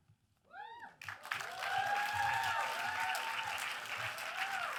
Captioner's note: audience applauds and cheers